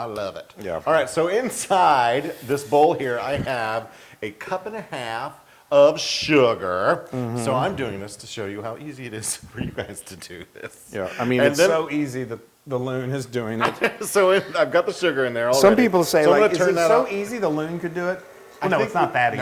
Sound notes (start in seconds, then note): 13.6 laugh